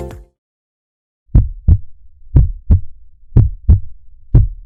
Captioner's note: heart beats